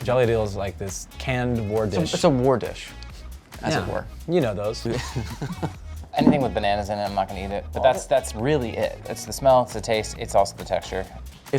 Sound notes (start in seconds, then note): 4.9 laughing